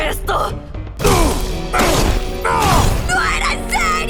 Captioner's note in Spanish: Toribio gruñe